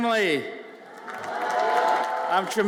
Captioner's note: audience cheers